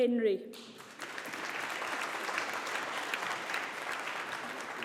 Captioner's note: audience applauding